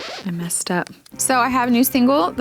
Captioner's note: record scratch